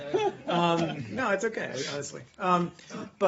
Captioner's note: laughter